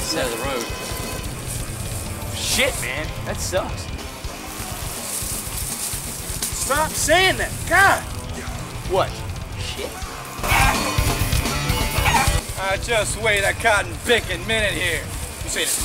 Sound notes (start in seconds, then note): 4.1 upbeat metal music; 10.6 chicken clucking; 10.6 upbeat metal music